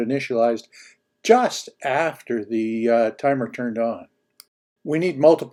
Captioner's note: clicks